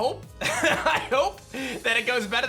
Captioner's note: laughs